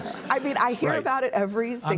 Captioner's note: audience laughs